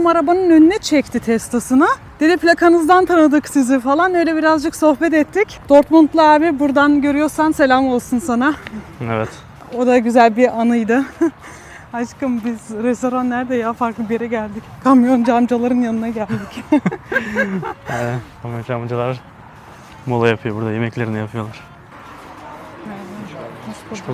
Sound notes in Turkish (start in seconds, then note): 16.2 kahkaha